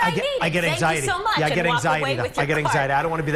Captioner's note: laughter